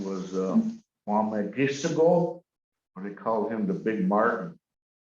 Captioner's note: foreign language